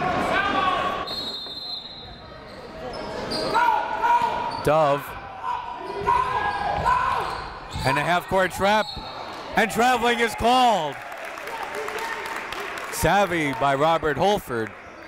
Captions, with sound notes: (whistle blows) Dove. (coaches yelling) And a a half court trap and traveling is called. (crowd applauds) Savvy by Robert Holford,